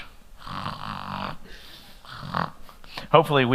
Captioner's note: snoring